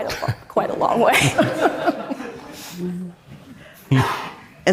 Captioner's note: all laughing